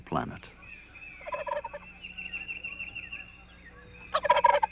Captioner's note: turkey gobbling